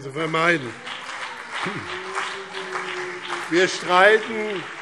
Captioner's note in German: Beifall BÜNDNIS 90/DIE GRÜNEN und CDU